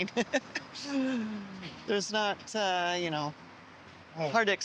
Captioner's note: laughs